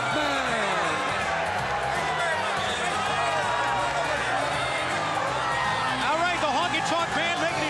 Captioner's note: crowd chatter